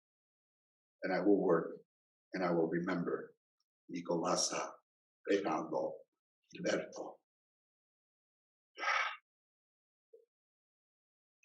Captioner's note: exhales